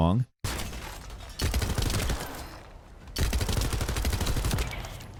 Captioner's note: gun fires